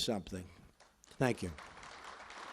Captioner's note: applause